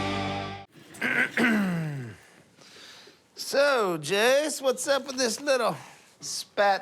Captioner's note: clears throat